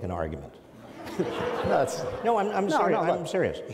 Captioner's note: audience laughs